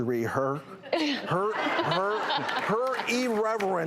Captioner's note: laughing